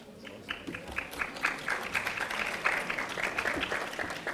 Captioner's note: audience applauding